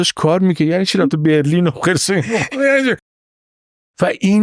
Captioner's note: laughs